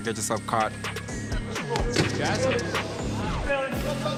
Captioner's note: chattering